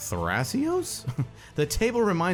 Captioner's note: narrator chuckles